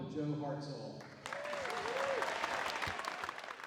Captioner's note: audience applauds